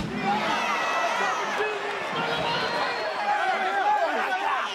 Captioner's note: audience cheers